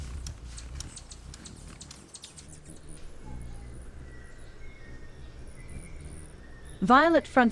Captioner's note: birds chirping and singing